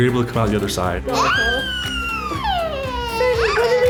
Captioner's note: baby laughing